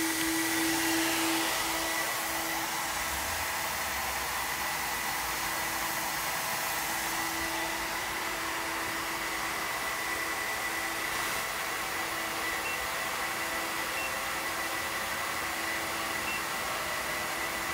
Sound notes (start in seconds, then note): 4.0 machine whirring